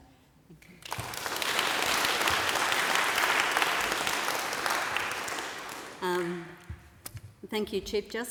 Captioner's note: applause